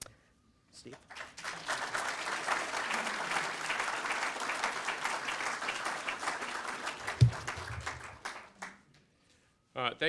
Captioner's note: applause